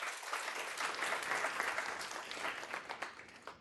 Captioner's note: applause